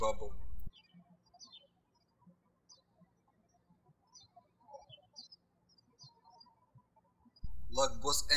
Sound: birds chirping

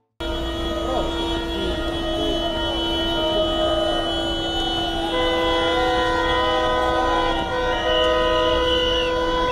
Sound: A lot of Traffic and Noise: Cars horn

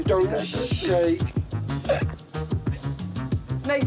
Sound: laughs

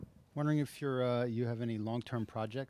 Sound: voiceover

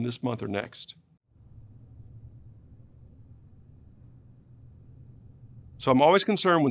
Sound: silence

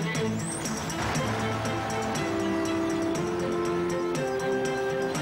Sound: tractor engine revving

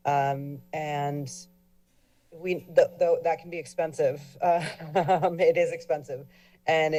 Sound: chuckles

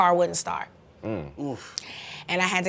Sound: groaning

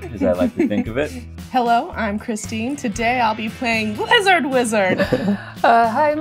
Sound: laughter

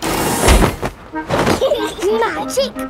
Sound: laughing

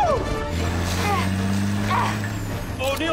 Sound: grunting

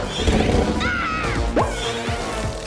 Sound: growling; buzzing

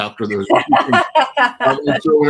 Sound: laughs

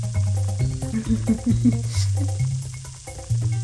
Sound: tiny bemused laughter

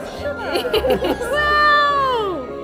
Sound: everyone laughing

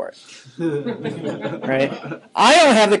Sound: students laughing

